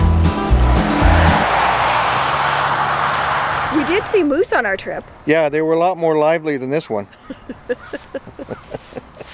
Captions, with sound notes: -We did see moose on our trip. -Yeah, they were a lot more lively than this one. [chuckles]